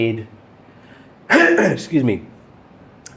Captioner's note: clears throat